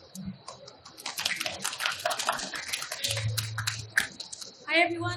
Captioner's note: applauding